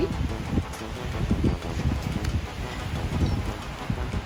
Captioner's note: wind whooshing